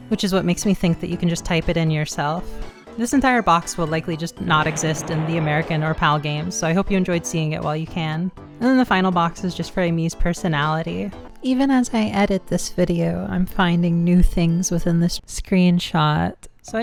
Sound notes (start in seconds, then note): 4.4 explosion